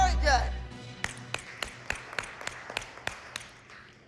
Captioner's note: applause